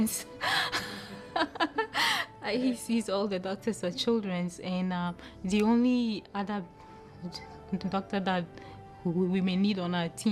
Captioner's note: laughter